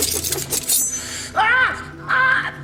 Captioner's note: knife swishy sounds